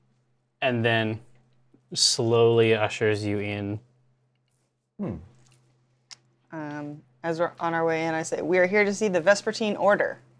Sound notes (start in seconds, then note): none